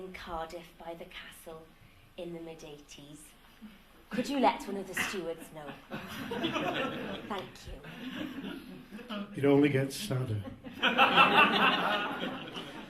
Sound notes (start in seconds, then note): 7.7 laughter